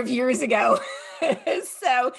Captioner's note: laughs